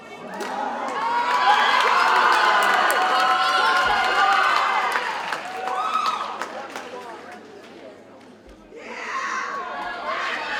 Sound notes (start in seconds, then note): 0.3 audience cheers and applauds